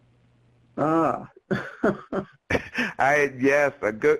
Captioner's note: laughs